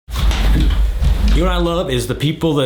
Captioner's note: wheels rolling